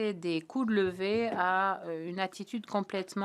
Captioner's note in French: voix de l'interprète